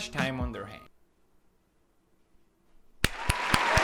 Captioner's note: moment of silence; applause